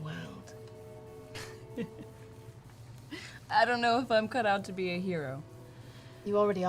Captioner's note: laughs